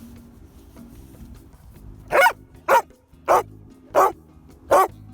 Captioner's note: light music; dog barks